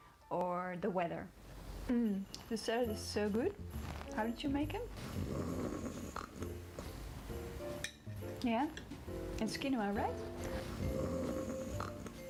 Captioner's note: snoring sound